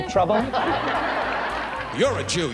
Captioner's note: audience laughs